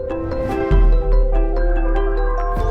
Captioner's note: none